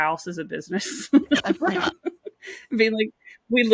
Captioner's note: laughs